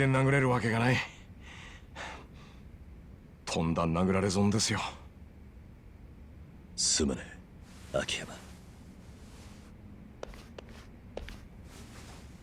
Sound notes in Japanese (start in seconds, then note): 1.4 荒い息